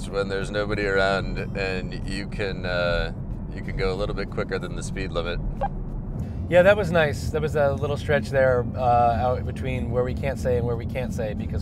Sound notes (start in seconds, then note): 5.6 beep